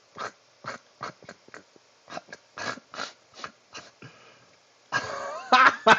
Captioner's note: snorts